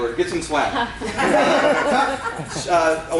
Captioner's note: laughter